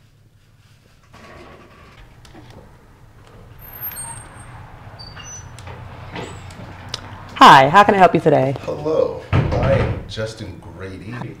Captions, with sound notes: (chair scrapping) (hinges squeaking) - Hi, how can I help you today? - Hello, I am Justin Grady.